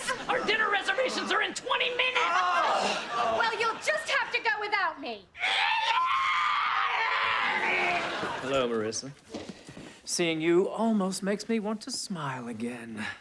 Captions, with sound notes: Our dinner reservations are in 20 minutes. [groaning] Well, you'll just have to go without me. [screeching] Hello, Marissa. Seeing you almost makes me want to smile again.